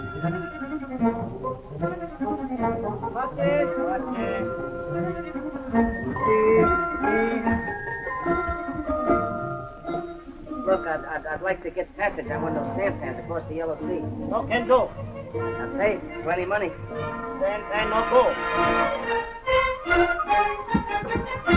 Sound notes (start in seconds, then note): 0.2 oriental music; 14.1 speaking japanese; 17.6 speaking japanese